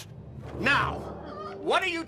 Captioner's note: Joan yelps